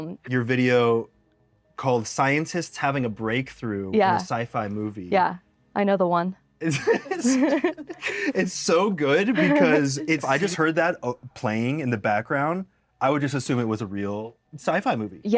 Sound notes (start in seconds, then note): 6.6 both laugh